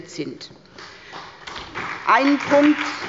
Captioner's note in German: Beifall bei der SPD